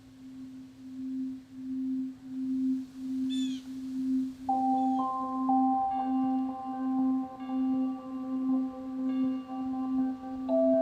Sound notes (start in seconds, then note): 3.5 birds chirping; 6.0 bell tolling